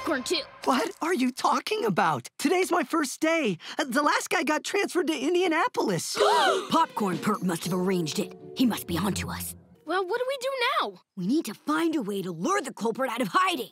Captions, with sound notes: What are you talking about? Today's my first day, the last guy got transferred to Indianapolis. [gasping] Popcorn perp must have arranged it, he must be onto us. Well what do we do now? We need to find a way to lure the culprit out of hiding.